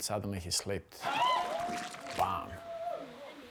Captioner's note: people exclaim